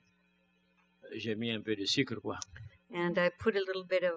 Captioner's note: speaking french